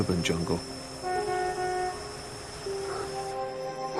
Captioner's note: horns sound off